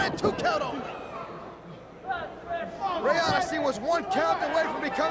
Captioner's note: crowd chatter